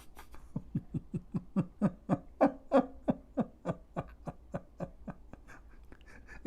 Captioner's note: Ketawa